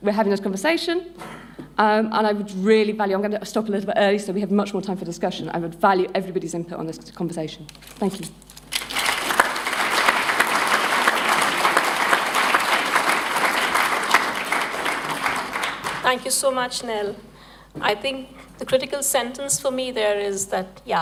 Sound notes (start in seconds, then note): 8.7 applause